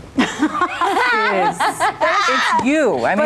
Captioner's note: laughing